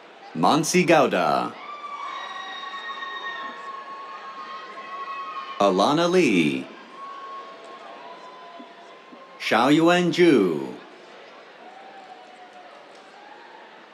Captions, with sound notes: Manasi Gowda. [CHEERS] Alana Li. [CHEERS] Xiaoyuan Zhu. [CHEERS, APPLAUSE]